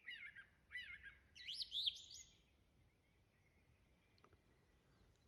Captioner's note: birds singing